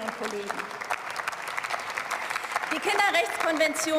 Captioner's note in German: Beifall